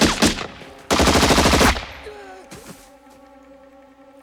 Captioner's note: machine Gun Fire; rifle Fire